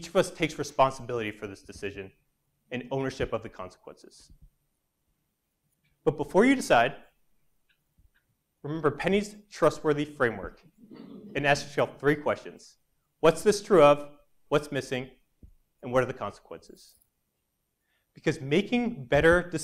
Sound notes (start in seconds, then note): 10.8 laugh